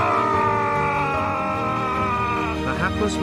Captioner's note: shouting